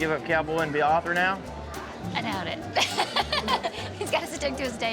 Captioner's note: laughter